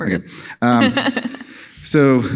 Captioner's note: laughs